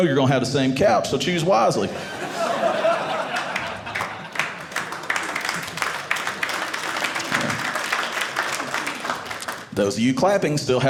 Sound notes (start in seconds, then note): 1.8 audience laughing; 4.7 audience applauding